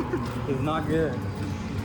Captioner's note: laughing